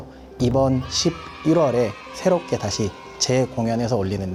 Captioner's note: cheering sound effect